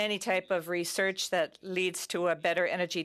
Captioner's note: speaking French